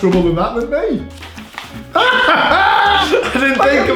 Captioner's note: laughing